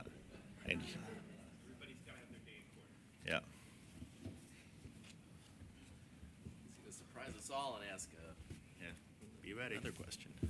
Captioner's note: laughter